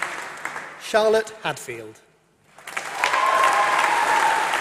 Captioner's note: applause